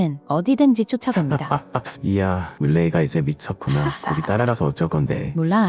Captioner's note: laughs